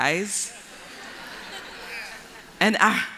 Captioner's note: laughter